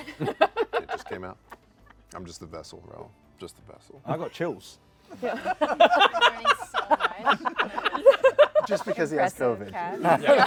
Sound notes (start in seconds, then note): 0.0 laughter; 5.1 laughter